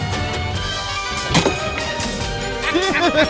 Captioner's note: Caprice spits; Caprice, Ella and Ava laughs